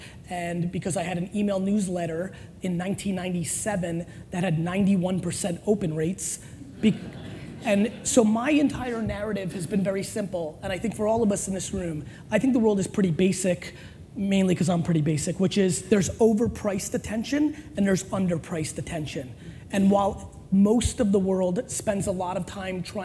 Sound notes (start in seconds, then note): 6.6 laughter